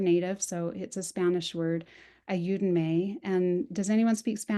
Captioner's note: spanish